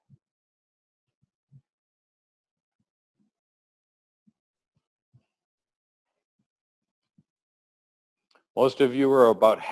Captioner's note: pause